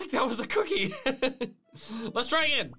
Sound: laughing

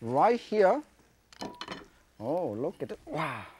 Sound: utensils clatter

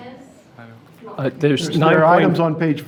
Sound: person speaking off mic

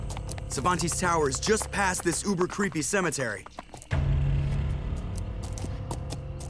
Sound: none

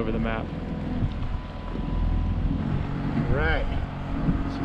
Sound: boat engine idling

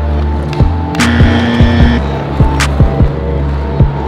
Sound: buzzer

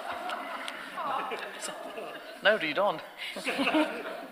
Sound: audience laughter

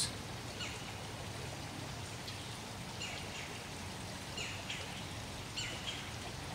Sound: birds calling

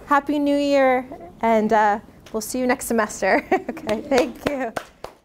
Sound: laughs; claps

